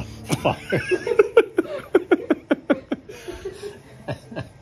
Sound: laughter

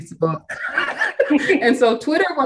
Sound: all laughing

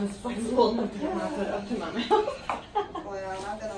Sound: laughs

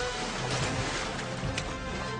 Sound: splash

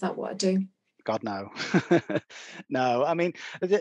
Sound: laughs

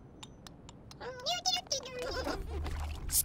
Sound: humming

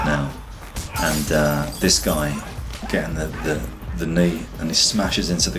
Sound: glass cracks

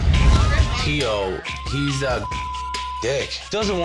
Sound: beep

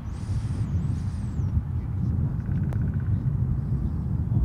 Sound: wind whooshing

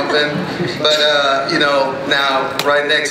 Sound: voiceover

